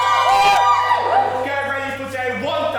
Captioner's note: audience cheering